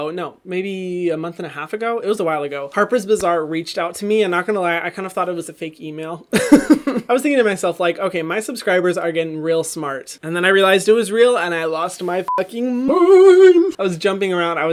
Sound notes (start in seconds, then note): 6.4 laughing; 12.2 beep